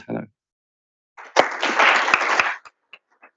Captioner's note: applause